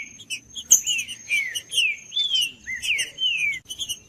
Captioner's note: trinca ferro cantando